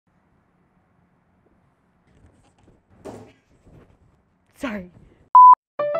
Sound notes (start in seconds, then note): 3.0 thud